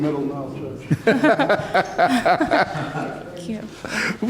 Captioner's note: laughing